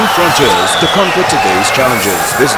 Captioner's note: wild applause and cheering for 22 seconds